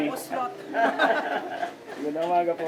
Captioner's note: laughs